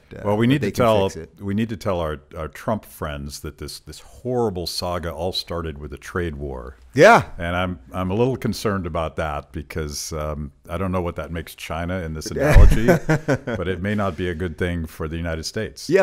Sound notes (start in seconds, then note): 12.2 laughs